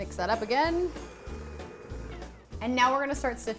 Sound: mixer whirring

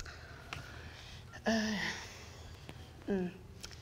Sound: sighs

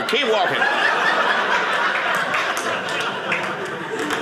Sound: audience laughing

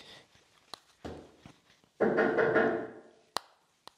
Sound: spooky Knocking Continues

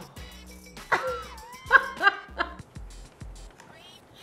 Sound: laughs

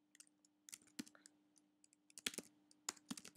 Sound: typing

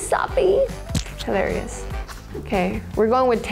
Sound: image squelches

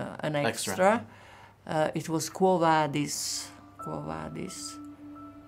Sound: speaking in Italian

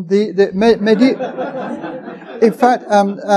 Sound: audience chuckling

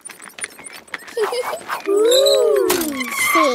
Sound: giggling

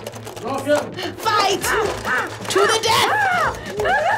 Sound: groaning; laughs

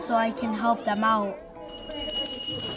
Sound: bell rings

